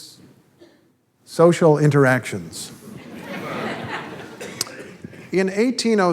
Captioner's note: audience laughter